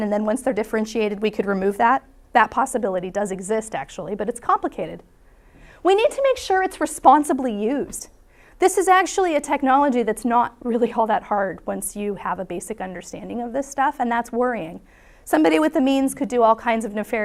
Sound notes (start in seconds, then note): none